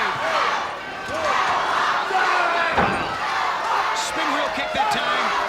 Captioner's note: crowd chants "Go Hawk go"